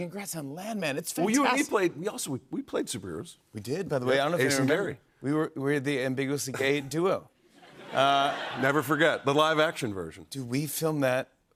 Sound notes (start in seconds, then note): 7.6 laughter